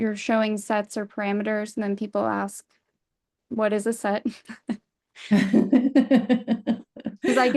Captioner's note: laughs